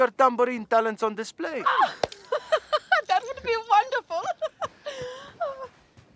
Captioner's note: laughs